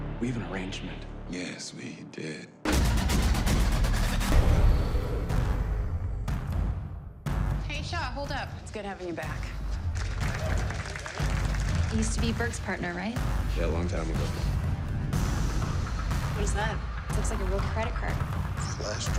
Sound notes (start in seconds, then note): 9.8 applause